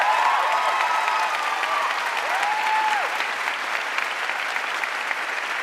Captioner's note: audience cheering and applauding